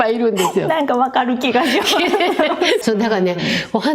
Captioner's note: laughs